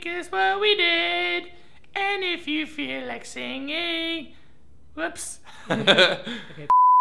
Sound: both laugh

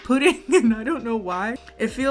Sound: laughs

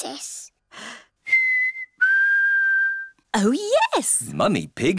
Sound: whistles

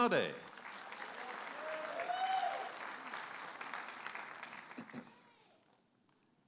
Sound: audience applauding and cheering

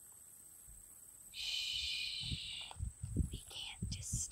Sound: whispers

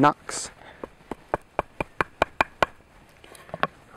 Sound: knocking

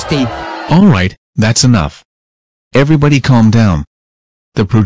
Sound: shouting

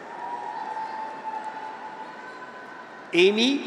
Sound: graduates cheer

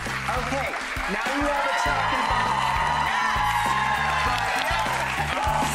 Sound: audience cheering

